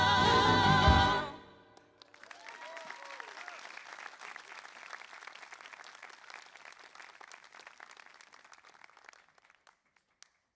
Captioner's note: applause